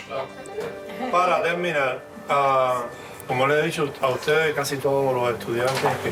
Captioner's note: instructor speaking in Spanish